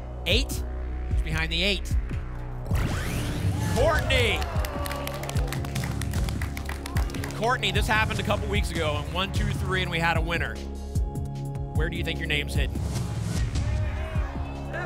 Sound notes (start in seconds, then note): 5.1 applause and cheering